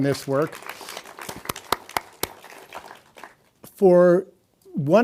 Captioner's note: audience applauding